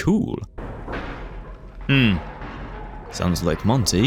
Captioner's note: Monty raging at Security Breach noises